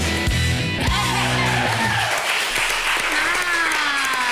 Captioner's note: cheerleaders applaud